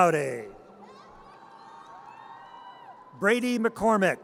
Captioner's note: audience cheers